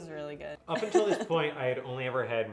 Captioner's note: laughs